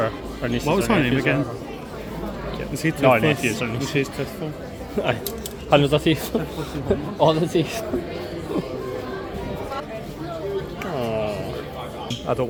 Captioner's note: laughs